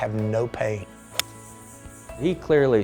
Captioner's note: whipping